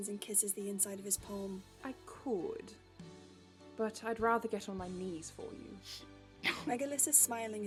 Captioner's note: James almost chokes